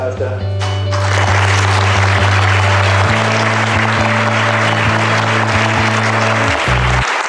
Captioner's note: applause